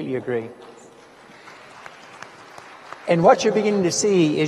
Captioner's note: audience applauds